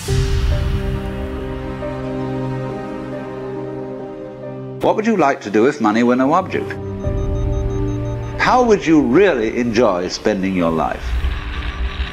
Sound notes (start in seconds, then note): 0.2 gentle music; 6.0 vario beeping sound